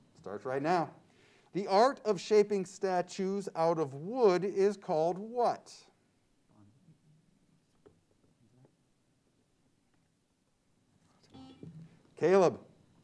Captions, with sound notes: Starts right now. The art of shaping statues out of wood is called what? (team murmuring) (buzzer sounds) Caleb.